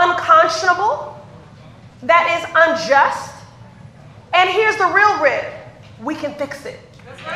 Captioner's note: applause